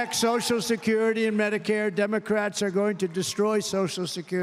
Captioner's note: applause